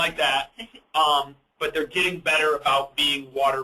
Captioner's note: chuckles